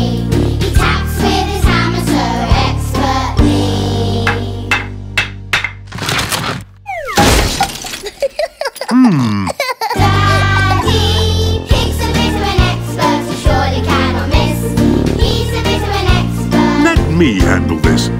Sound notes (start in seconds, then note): 4.7 tapping hammer; 5.6 cracking